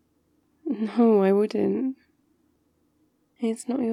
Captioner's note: laughs